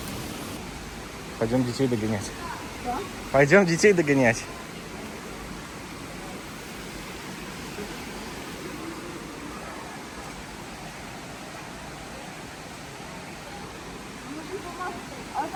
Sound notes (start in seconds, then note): 9.8 kids talking